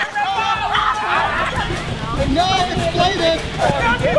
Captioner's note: campers yelling